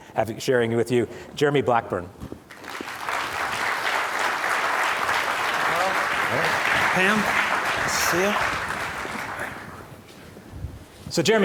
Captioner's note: applause